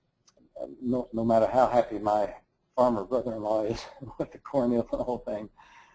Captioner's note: laugh